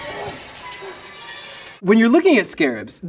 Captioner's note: bug hissing